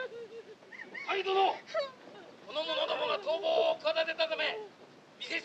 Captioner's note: shouting in Japanese